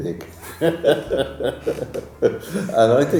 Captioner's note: laughter